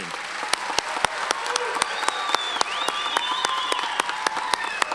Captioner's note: audience cheers and applauds